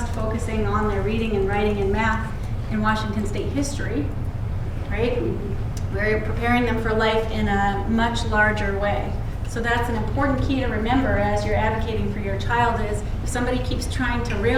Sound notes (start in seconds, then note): none